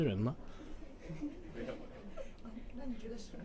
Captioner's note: interviewers laugh slightly embarrassedly